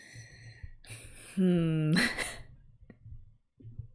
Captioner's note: laughs